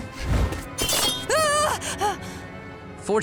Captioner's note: groaning